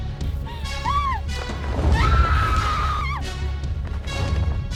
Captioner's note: Connie screams